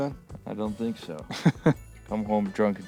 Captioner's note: laugh